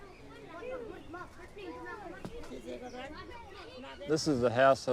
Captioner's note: muffled speaking in foreign language